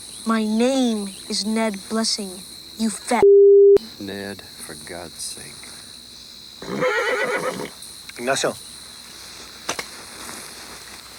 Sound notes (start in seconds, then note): 6.6 horse neighs